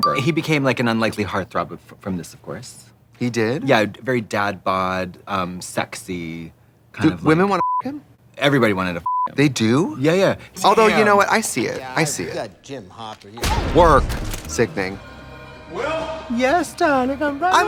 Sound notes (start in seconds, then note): 7.8 beeping